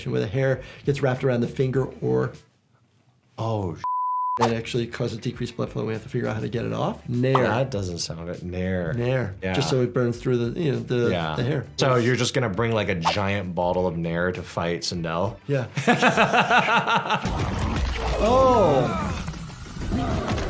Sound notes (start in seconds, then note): 3.8 beep; 15.7 laughs; 18.1 video character grunts